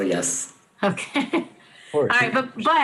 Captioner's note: laughs